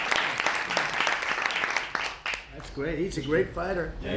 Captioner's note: applause